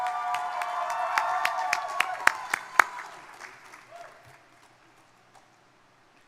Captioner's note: crowd cheering; crowd applauding